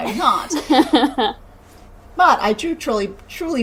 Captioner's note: laughing